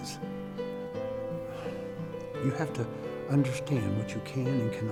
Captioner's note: sighs